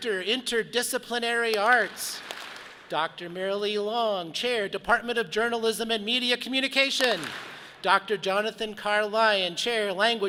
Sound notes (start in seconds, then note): 1.5 audience claps; 7.0 audience claps